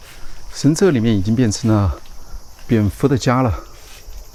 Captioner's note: bat chirping sounds